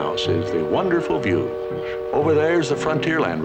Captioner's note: ship horn